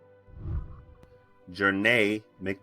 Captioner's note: whooshing